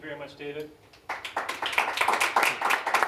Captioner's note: applause